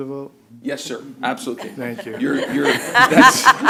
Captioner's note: laughter